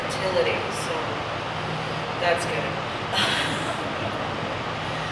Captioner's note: laughs